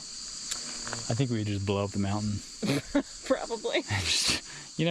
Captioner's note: laughs